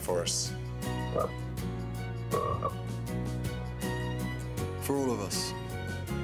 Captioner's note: frog croaks